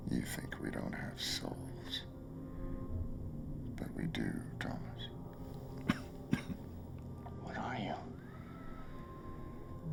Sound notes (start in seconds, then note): 5.8 coughing